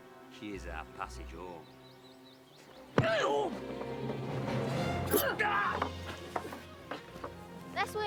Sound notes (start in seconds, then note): 2.7 man and woman grunt